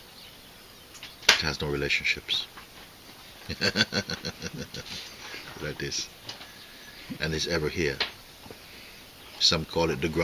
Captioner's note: laughter